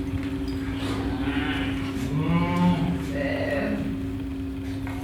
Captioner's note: animal sounds